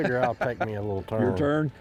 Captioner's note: laughter